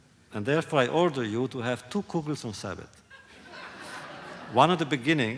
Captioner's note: laughter